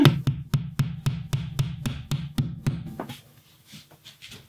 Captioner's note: nail hammering